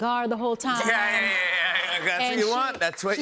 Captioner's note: laughter